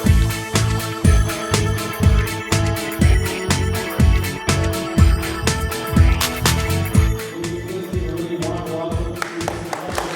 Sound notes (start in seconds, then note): 6.8 male Voice